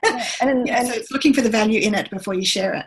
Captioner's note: laughs